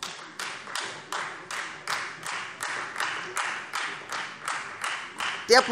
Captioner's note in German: Beifall Freie Demokraten